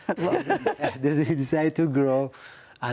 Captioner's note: laugh